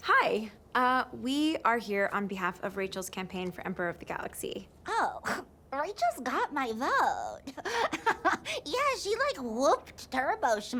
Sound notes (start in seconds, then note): 4.9 scoffs; 7.4 laughs